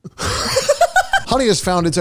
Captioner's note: laughing